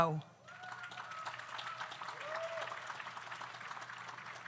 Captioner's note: audience applauds